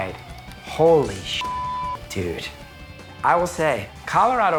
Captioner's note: beep